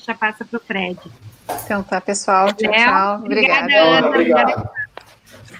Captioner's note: multiple voices